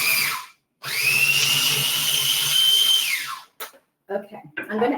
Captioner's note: food processor whirring